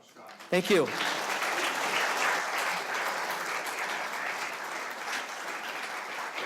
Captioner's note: audience applauding